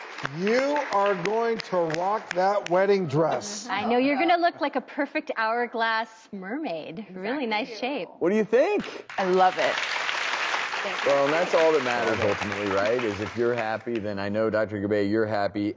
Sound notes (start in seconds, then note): 0.0 audience applauds; 8.6 audience applauds